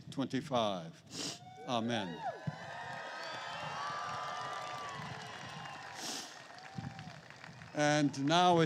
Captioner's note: applause